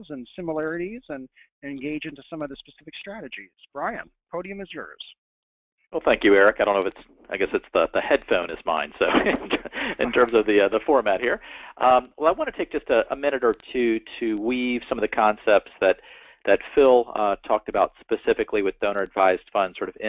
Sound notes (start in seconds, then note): 8.8 laugh